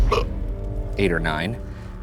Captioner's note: burping